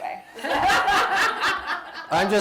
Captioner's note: laughter